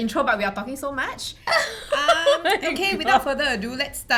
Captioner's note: laughter